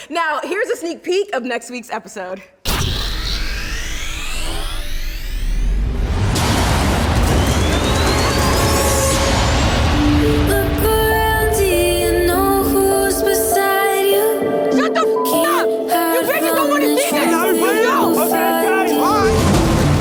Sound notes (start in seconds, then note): 10.4 intense music; 16.0 beep